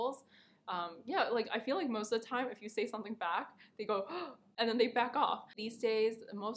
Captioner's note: gasp